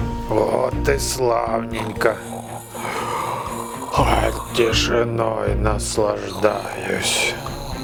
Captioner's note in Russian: зевает